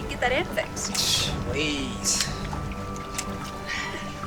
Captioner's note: scoffs